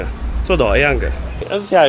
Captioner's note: wu Chinese